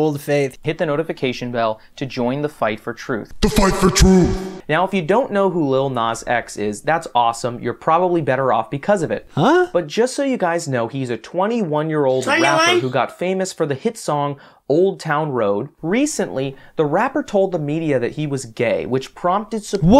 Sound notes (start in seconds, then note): 12.2 meme sound effect